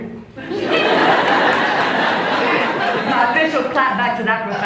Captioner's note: laughs